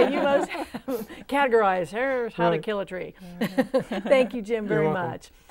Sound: laughing

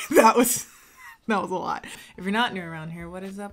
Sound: laughing

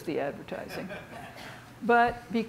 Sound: audience laughing

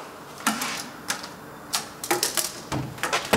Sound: clacking

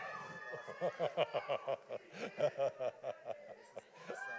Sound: laughing

